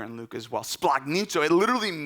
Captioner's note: speaking in Greek